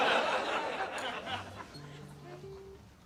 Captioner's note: laughter; slow music